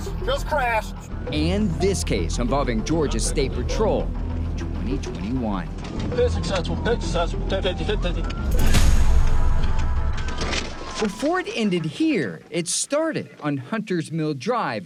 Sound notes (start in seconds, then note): 5.6 sirens blaring; 9.1 dramatic music